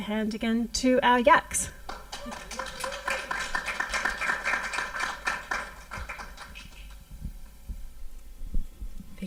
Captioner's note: applause